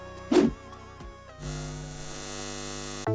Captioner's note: air swooshes; static buzzes